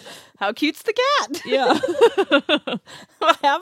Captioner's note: laughs